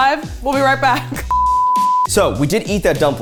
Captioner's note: beep